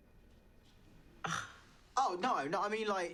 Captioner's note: Teri scoffs